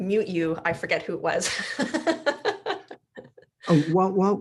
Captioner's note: laughing